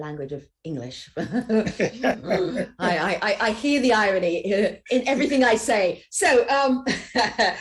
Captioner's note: laughs